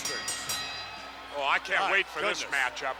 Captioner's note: bell rings